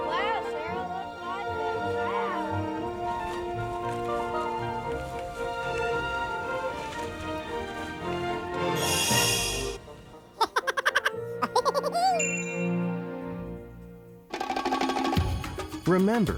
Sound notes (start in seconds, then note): 2.9 lively music; 9.1 magical music; 10.4 laughing; 14.2 bright rousing music